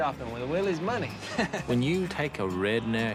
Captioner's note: chuckles